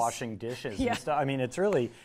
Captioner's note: laughs